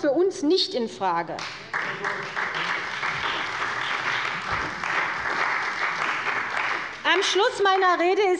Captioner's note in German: Beifall bei der CDU und dem BÜNDNIS 90/DIE GRÜNEN